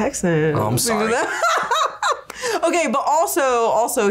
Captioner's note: laughs